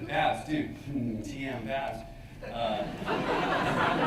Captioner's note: laughter